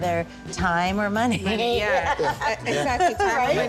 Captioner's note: laughs